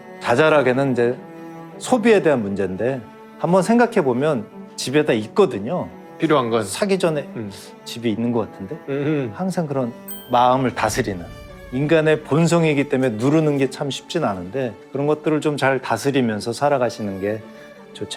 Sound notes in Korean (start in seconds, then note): 10.0 반짝이는 효과음